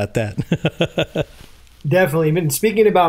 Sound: laughs

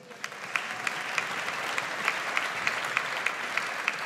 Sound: audience applauds

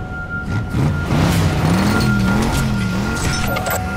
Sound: engine revving

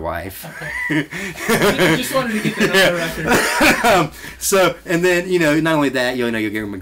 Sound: both laugh

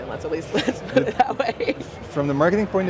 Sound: laughs

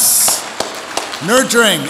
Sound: audience applauds

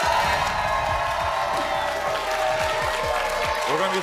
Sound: audience cheers and applauds; air whooshes

